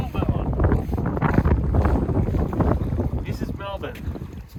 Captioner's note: wind blowing